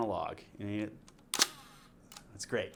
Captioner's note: camera shutter clicks